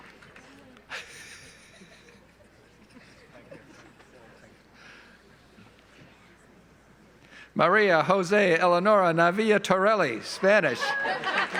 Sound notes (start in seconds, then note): 0.9 laughs